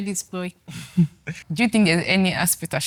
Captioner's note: laughs